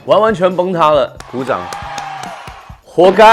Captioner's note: All fans of "Unchained Love" cheering